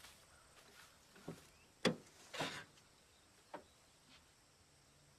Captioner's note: door thudding